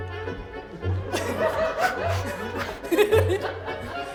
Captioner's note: classical music; audience laughs; laughs